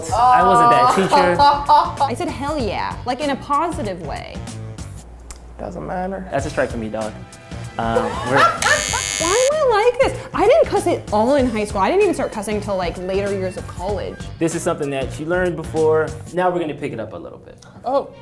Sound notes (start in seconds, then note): 0.9 laughs; 8.0 both laughing